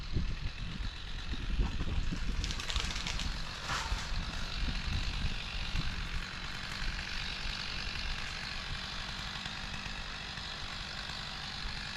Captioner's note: motor running